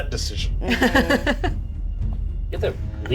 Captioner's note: Evelyn chuckles